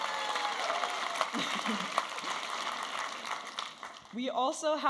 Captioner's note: audience applauding and cheering